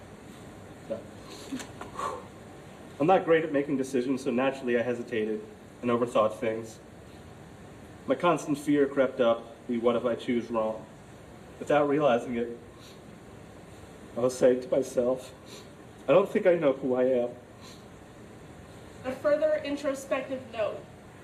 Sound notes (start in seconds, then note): 1.8 exhales forcefully; 15.9 voice breaking; 17.6 sniffles